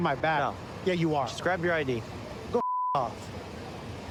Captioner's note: beep